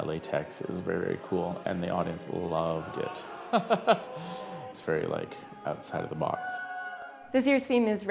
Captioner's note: laughs